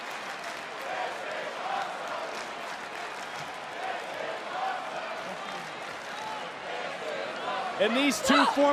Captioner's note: crowd chants